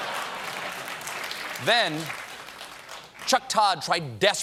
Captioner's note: applause